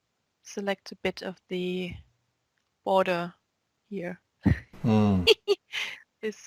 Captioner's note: both laugh